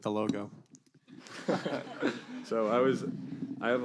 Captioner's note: laughs